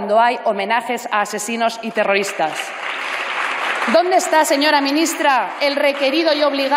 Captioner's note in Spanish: Aplausos